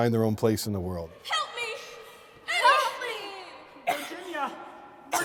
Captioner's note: coughs